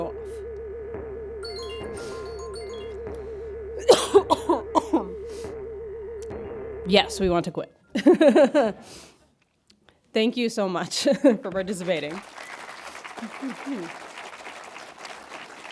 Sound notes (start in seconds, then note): 0.0 dramatic music; 3.8 coughing; 11.6 audience applauding